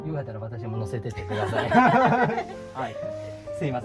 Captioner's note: laughs